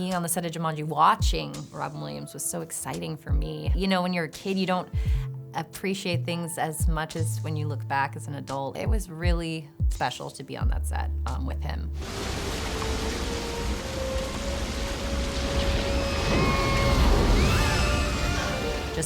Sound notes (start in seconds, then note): 12.0 water rushing; 15.4 kids screaming